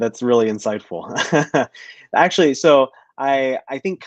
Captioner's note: laughter